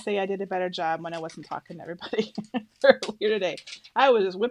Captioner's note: laughs